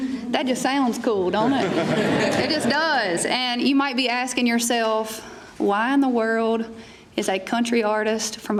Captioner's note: laughter